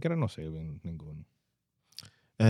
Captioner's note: speaking In Foreign Language